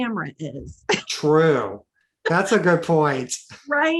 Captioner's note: laughing